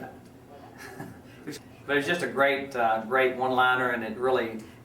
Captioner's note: laughs